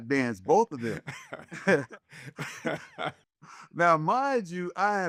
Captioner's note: laughing